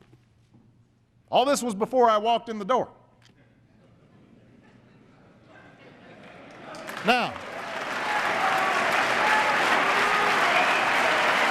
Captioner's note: laughter and applause